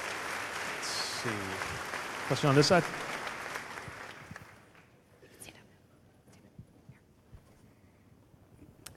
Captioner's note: applause